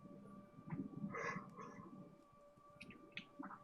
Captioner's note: yawns